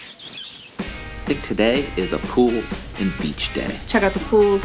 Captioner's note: squeaking